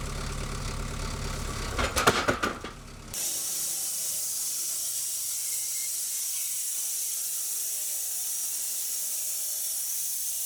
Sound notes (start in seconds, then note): 1.4 wood clanking; 3.1 saw whirring